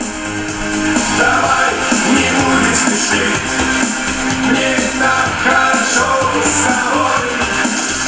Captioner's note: broadcast is being played